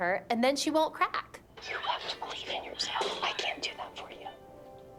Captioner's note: whispering